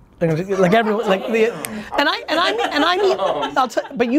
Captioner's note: laughing